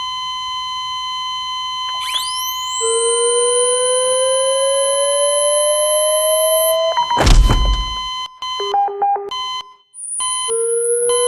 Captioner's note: defibrillator zapping repeatedly